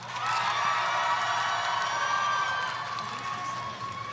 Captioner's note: audience cheering